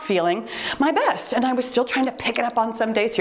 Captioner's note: timer beeps